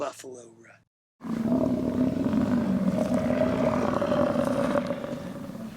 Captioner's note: buffalo grunting